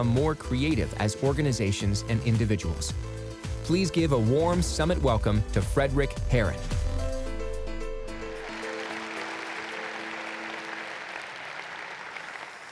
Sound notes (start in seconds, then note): 8.2 audience applauds